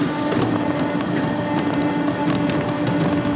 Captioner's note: whirring